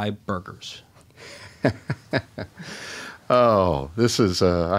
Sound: chuckles

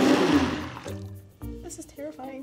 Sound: blender revs

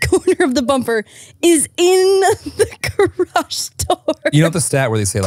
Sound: laughing

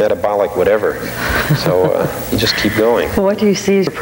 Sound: laughing

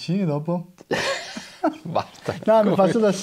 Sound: laughter

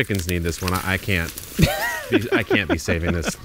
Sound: laughs

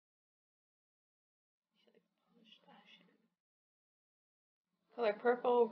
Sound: whispering

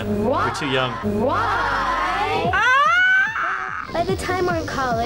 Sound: kids chiming; squealing

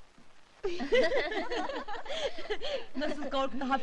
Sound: laughing

